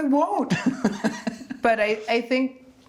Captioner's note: laughing